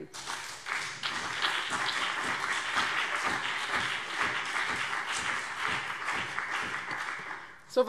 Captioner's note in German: Beifall CDU und BÜNDNIS 90/DIE GRÜNEN